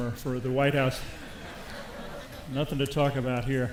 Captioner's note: audience laughs